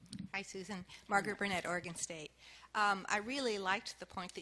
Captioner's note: voiceover